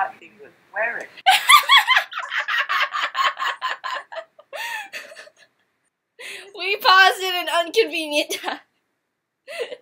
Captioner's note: laughing